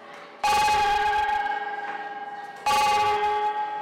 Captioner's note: bell ringing